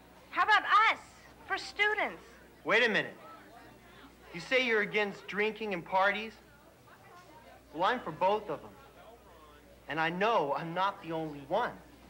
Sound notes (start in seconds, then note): 3.2 students chattering